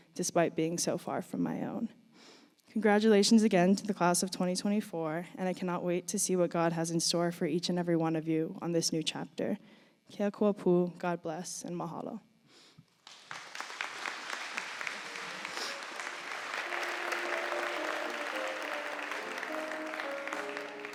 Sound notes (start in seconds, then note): 10.6 speaking in foreign language; 13.0 audience applauding; 17.7 gentle piano music